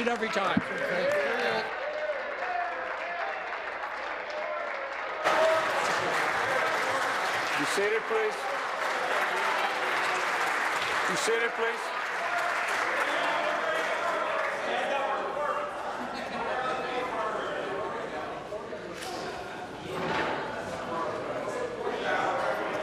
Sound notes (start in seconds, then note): 0.3 applause